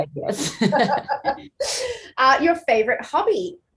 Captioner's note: both laughing